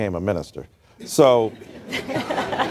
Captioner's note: laughter